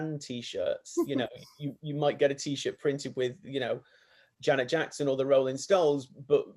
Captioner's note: laughs